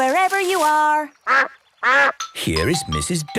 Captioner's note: quacks